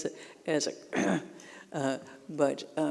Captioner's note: grunting